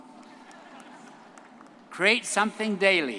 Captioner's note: audience laughing